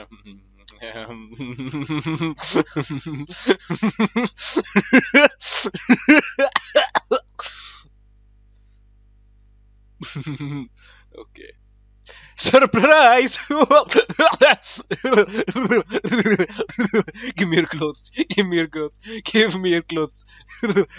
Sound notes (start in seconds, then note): 1.2 laughs maniacally; 10.0 short laugh